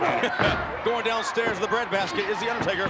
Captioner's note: chuckles